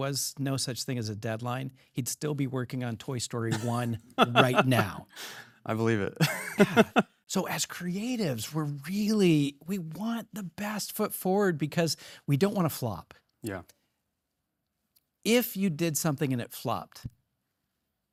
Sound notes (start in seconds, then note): 6.2 laughs